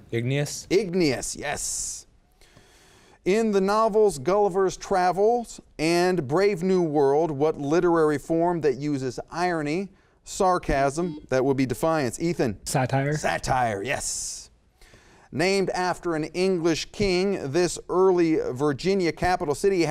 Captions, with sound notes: - Igneous. - Igneous, yes. In the novels Gulliver's Travels and Brave New World, what literary form that uses irony, sarcasm-- (beep) That would be Defiance, Ethan. - Satire. - Satire, yes. Named after an English king, this early Virginia capital city